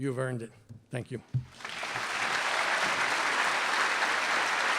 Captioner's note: applause